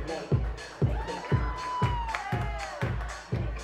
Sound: audience Cheers

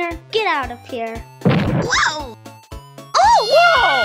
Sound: boom!

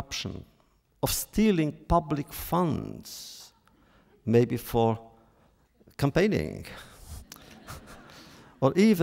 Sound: laughter

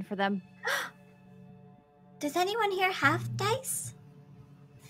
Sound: gasps

